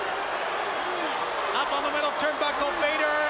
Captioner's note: crowd cheering